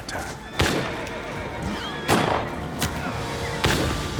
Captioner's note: gunfire